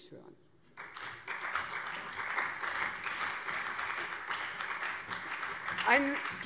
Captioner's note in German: Beifall CDU und SPD